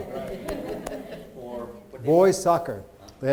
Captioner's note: people laughing